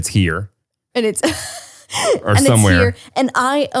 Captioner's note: laughs